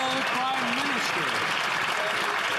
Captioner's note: some Applause